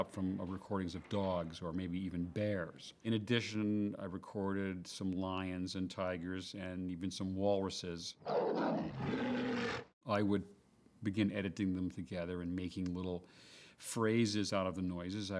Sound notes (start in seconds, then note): 8.2 growling